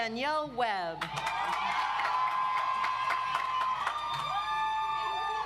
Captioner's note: audience applauds